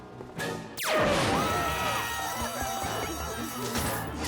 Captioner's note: clyde screeches, people scream; alarm wails